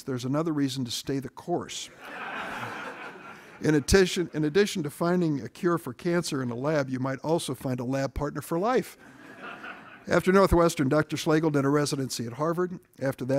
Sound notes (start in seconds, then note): 1.9 audience laughing